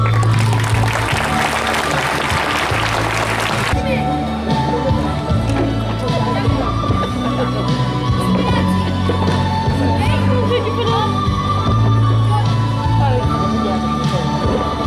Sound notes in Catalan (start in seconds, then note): 0.0 Aplaudiments; 3.6 Música, crits de karate i renou del públic